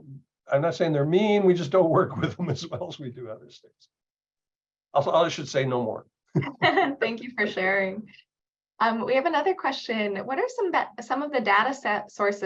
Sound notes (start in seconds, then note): 6.4 laughs